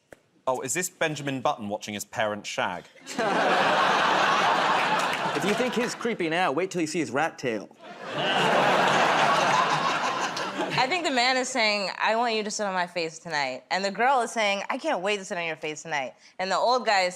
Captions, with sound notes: -Oh, is this Benjamin Button watching his parents shag? [ Laughter ] -If you think he's creepy now, wait 'til you see his rat tail. [ Laughter ] -I think the man is saying, "I want you to sit on my face tonight," and the girl is saying, "I can't wait to sit on your face tonight." And the old guy is saying,